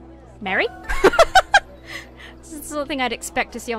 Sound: laughs

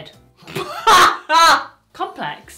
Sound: laughs

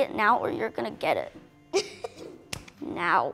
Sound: giggles

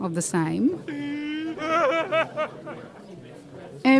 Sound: obnoxious laughter

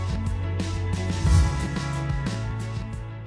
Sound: whoosh

